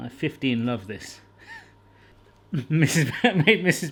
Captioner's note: wheezes